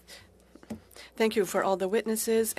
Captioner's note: speaking french